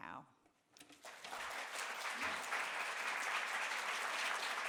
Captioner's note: applause